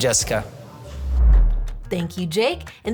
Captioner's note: logo whooshing